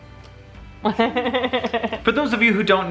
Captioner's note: laughs